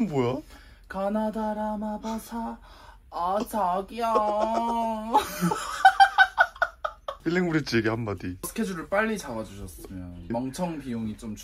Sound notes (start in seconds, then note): 3.9 laughing